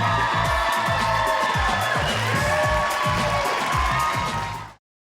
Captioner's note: audience Cheering; upbeat Music Playing